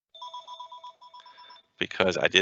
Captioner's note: phone ringing